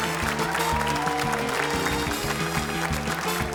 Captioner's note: cheering, applause